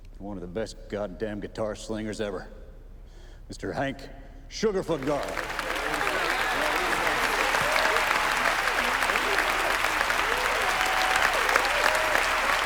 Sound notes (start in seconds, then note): 4.8 crowd applauding; 4.9 crowd cheering